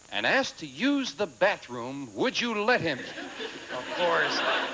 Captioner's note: audience laughing